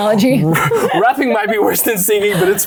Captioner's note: laughing